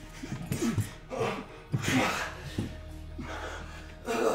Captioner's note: robber panting